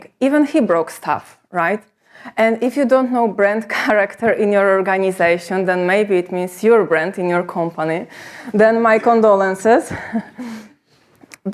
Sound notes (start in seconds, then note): 10.0 chuckles